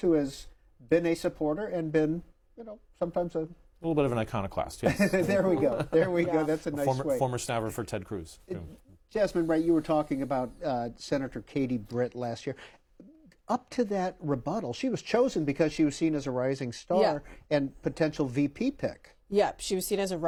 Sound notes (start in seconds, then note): 7.6 laughter